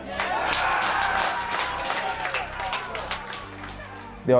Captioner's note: crowd cheering